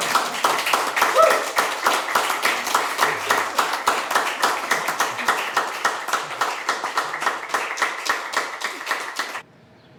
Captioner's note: audience applauds